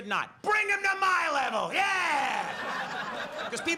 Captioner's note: audience laughs